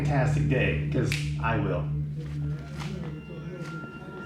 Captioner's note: snaps fingers